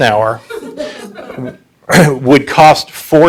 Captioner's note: audience laughing